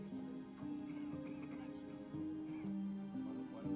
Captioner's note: coughing